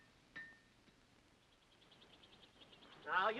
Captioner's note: birds chirp